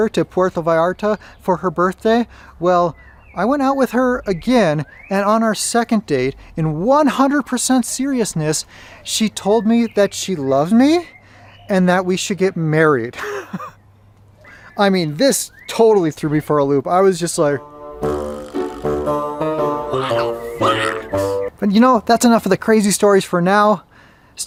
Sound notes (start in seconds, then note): 13.1 chuckles; 17.6 upbeat, quirky music